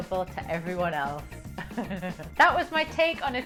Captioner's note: laughs